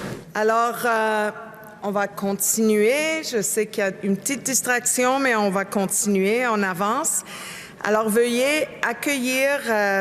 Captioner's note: speaking french